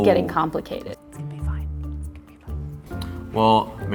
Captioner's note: whispering